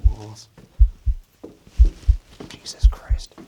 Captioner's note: loud heartbeat